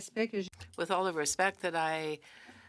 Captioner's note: speaking French